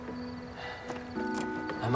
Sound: sighs

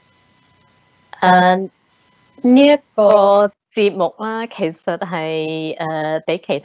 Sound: Cantonese

